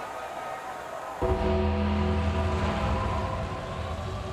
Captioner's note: bell tolls